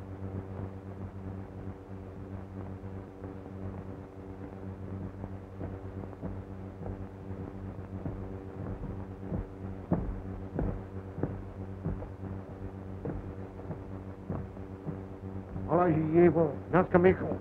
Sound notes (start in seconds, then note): 8.4 footsteps; 15.9 speaking russian